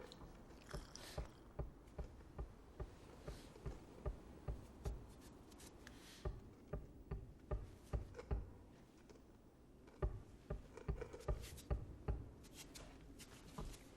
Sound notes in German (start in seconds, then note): 1.2 Klopfen